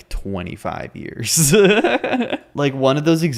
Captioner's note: giggles